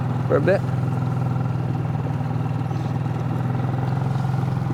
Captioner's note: motor burbling